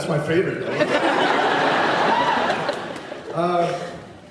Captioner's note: laughs